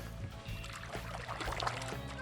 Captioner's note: water splashing